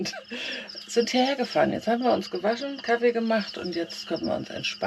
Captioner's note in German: gelächter